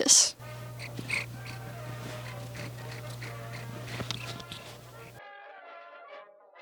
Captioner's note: sniffing and purring